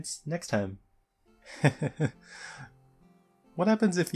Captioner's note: laugh